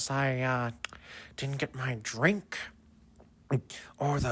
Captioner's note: lip smack